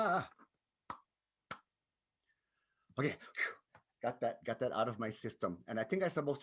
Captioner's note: claps